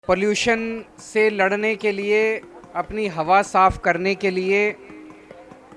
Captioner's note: person speaking foreign language